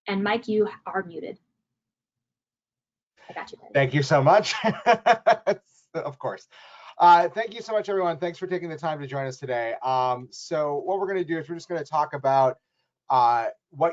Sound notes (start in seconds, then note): 3.7 laughs